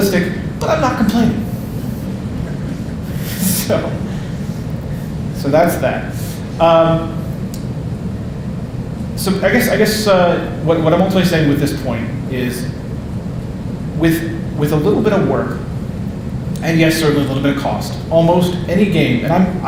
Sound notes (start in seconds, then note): 2.0 audience laughing; 2.2 laughing